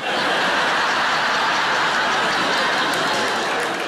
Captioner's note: audience laughing